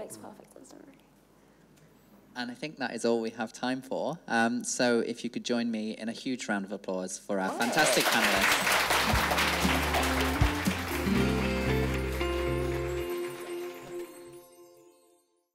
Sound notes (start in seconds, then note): 7.4 audience applauding; 11.0 upbeat music